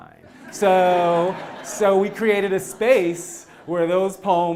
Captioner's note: laugh